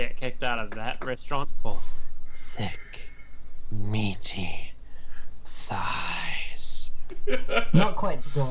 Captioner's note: in a sexy voice; chuckles